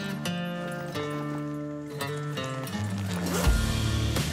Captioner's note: robust country music; bag rustles; zipper buzzes; engine purrs